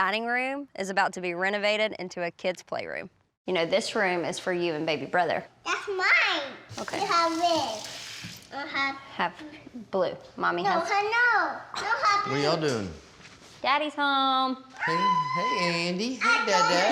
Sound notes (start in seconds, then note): 6.5 babbles; 14.8 squeals